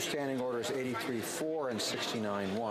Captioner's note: speaking French